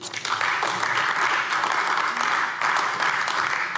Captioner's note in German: Beifall AfD